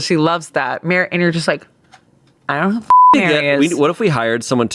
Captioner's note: beep